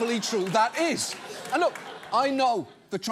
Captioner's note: audience laughs